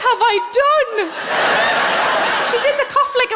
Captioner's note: laughing